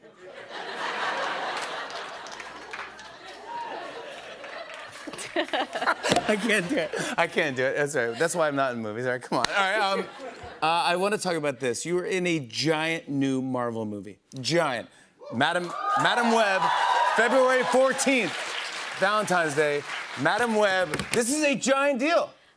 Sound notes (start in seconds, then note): 0.2 laughter; 3.2 both laugh